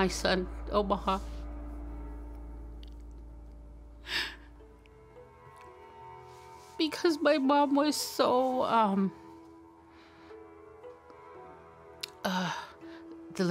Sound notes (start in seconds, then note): 3.7 inhales sharply; 12.0 sighs